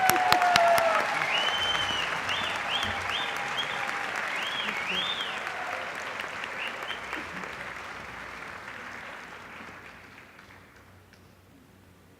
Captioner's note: applause